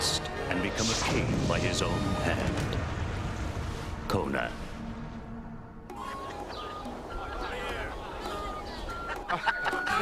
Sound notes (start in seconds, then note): 5.4 birds chirping; 9.1 laughing